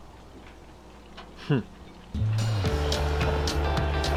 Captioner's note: he scoffs; upbeat music